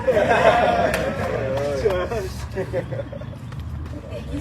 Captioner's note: audience laughs; indistinct chatter